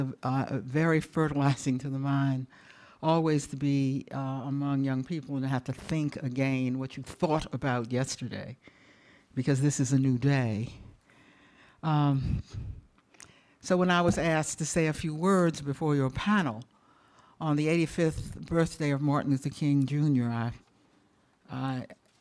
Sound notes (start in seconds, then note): none